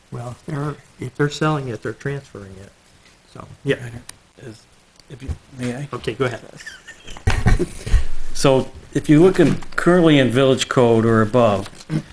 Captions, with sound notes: - Well, if they're selling it, they're transferring it. - So yeah. - If you may I? - Okay, go ahead. (laughs) - So, if you look in currently in village code or above,